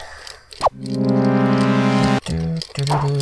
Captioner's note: game sound effects; imitates jingle